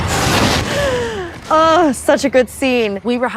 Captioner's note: Eleven screams; gasps